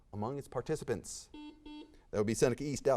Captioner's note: buzzer beeps